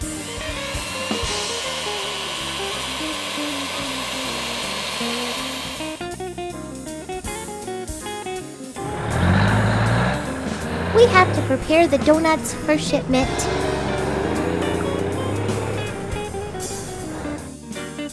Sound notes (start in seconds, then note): 0.0 mixer whirring; 9.0 truck engine rumbling